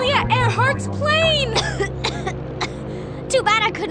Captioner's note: coughs